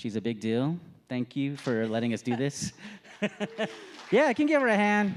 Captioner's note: laughing